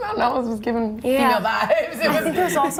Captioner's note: laughing